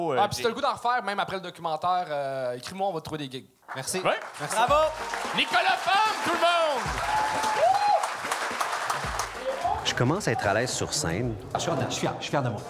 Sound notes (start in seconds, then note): 7.1 screams and applause